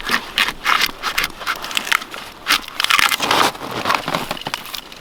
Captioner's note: bark rustling